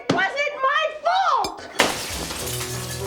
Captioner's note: glass shatters